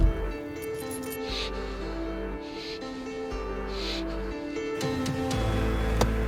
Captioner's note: heavy breathing; dramatic ambient music